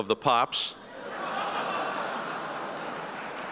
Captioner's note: laughter